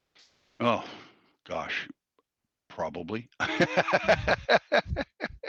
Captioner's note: laughs